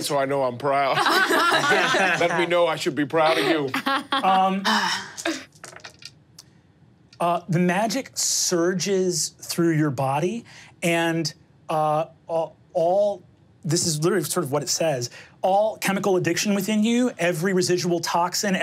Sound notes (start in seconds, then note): 3.2 laughs; 4.6 sighs